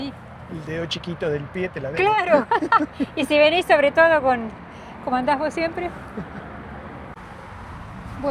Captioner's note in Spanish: risas